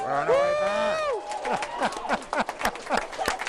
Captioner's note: applauding